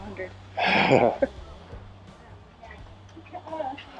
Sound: chuckling

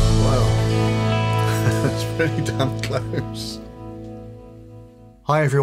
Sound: gentle guitar music; chuckles

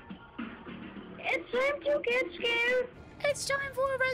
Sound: low Quality Child’s Voice; mimicking Song

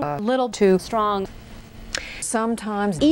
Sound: woman takes a breath

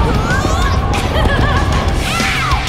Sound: laughing

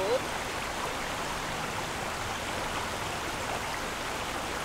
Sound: river water running

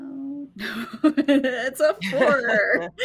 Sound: laughs

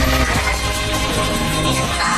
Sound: emmet vibrating

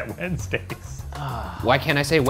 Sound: sigh

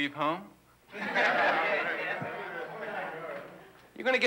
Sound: students chuckle

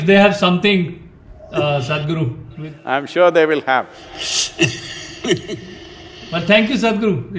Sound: laughs

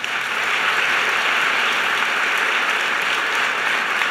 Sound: applause

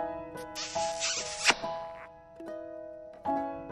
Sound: kiss

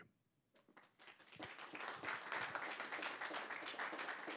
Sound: applause

